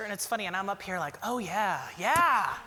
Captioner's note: none